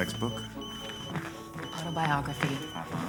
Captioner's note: cell phone ringing